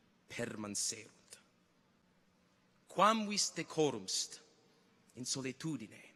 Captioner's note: continues to speak in Latin